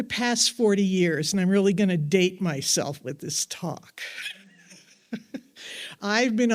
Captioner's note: laughs